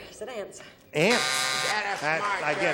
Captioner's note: buzzer